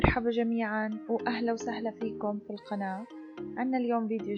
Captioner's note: in Arabic